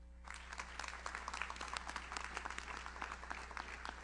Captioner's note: audience applauds